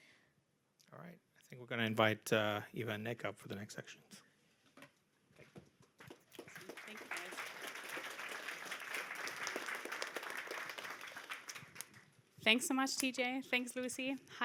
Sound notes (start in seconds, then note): 6.0 applause